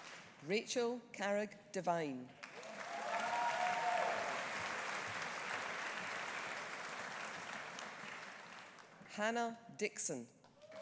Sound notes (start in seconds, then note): 2.4 audience applauding; 2.6 audience cheering